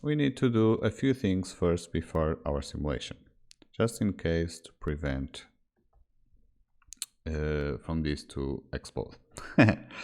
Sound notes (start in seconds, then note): 9.4 chuckles